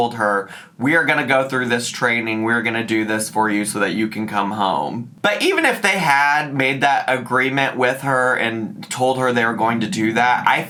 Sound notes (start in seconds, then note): none